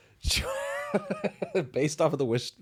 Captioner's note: laughing